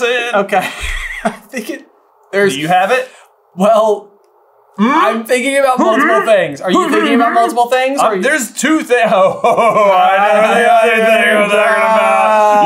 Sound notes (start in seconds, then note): 0.7 laughs; 3.1 still laughing